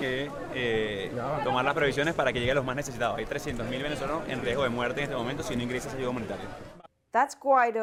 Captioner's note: speaking spanish